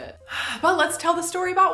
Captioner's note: sighs